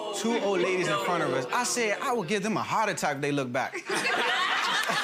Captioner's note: gallery oohs; gallery laughs